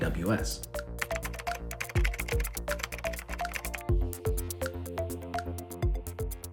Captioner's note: upbeat music; keyboard clicking